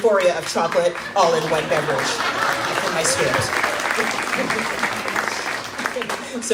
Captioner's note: crowd claps